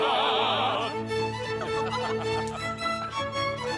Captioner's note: laughing